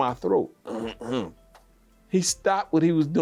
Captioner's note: clearing throat